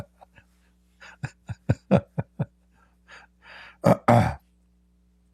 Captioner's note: Ketawa